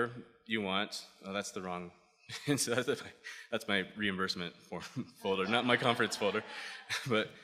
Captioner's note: laughter